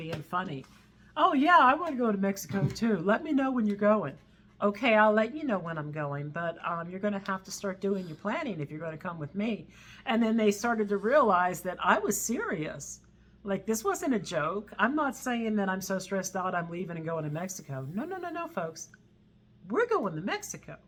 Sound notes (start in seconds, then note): none